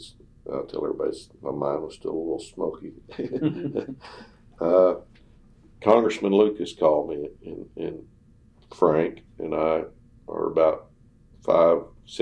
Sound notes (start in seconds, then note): 3.1 laughter